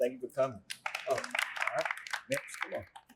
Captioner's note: applause